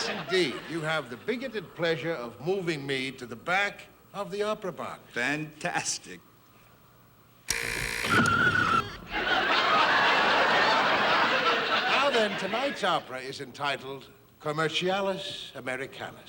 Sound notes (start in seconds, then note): 7.4 buzzing, squeaking; 8.8 audience laughing